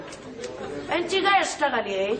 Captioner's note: laughing